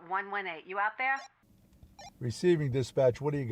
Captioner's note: radio bleeps